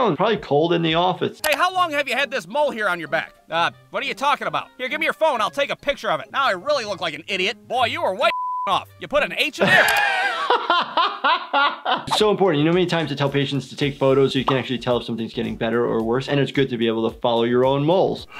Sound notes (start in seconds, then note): 8.2 beep; 9.6 laughter